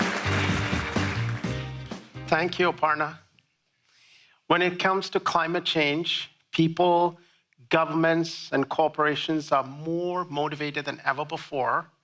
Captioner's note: alause